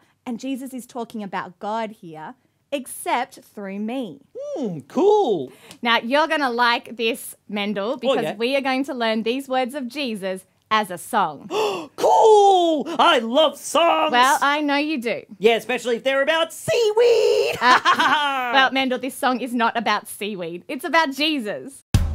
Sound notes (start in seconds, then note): 11.4 gasps; 17.3 laughs